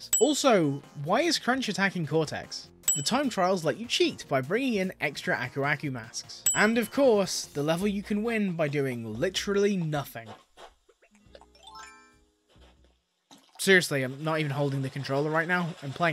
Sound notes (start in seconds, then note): 11.5 Animal Crossing gameplay sounds